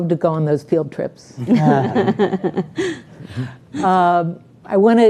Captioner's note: all laughing